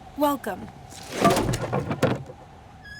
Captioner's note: thudding